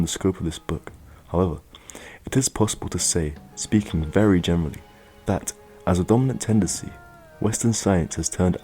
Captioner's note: speaking generally